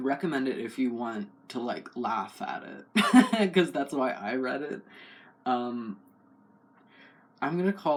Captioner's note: laugh